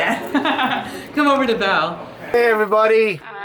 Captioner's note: laughs